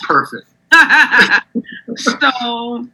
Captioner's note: laughs